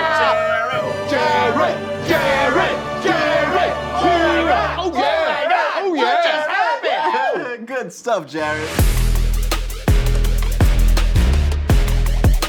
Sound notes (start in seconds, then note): 7.8 laughs; 8.6 dramatic music